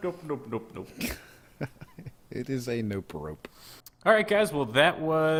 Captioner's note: laughs